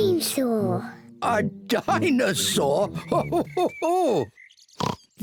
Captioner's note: laughs; oinks